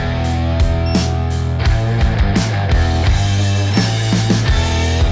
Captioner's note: beeping